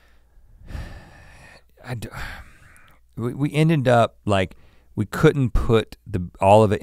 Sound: sighs

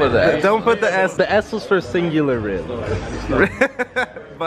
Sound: laughs

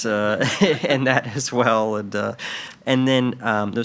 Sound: all laugh

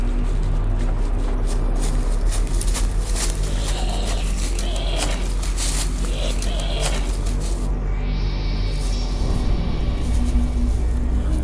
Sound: zombie male & female groans. Footsteps

